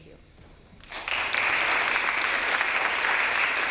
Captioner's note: applause